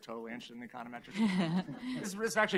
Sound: laughter

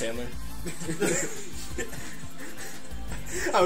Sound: laughs

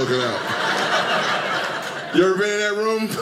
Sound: audience laughing

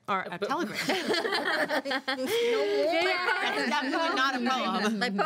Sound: girls laugh

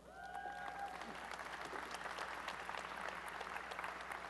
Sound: applause and cheering

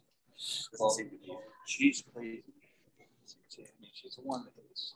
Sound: chatter

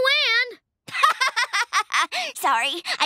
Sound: laughing

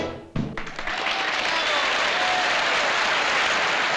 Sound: applause

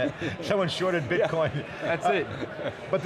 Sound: laughs

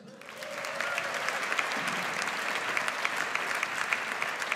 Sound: audience applauds

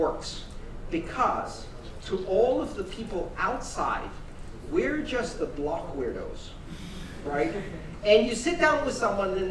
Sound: laughter

